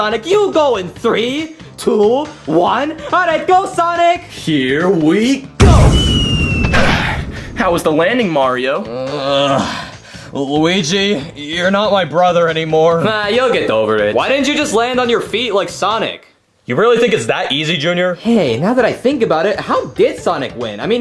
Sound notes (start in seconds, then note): 5.8 air whooshing and whistling; 8.8 Mario groaning